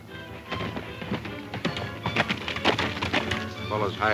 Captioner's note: horse hoof beats